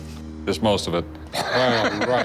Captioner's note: laughs